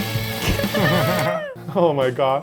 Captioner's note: upbeat rock music; laughing